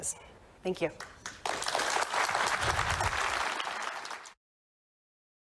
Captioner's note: applause